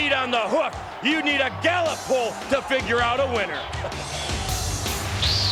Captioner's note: laugh